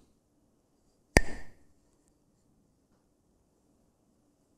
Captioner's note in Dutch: klakt met stokjes